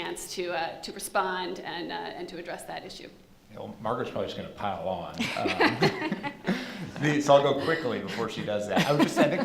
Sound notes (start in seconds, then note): 5.2 laughter